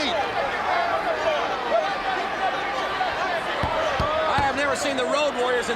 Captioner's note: crowd chatter